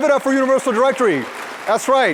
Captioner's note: applause